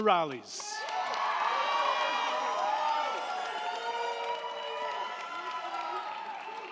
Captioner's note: crowd clapping; crowd cheering